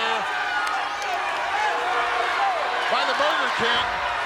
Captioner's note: crowd chattering